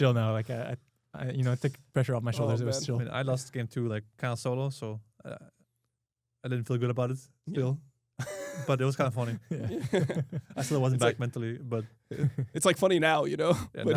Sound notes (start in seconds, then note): 9.2 laughs; 12.1 chuckles